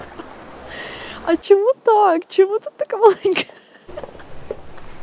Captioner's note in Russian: смеется